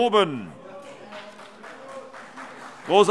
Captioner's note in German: Allgemeiner Beifall